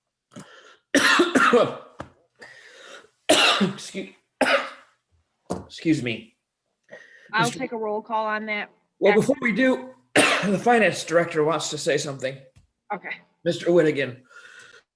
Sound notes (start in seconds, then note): 0.9 coughs; 10.1 coughs